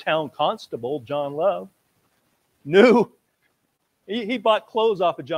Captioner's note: laughs